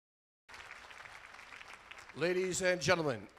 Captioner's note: applause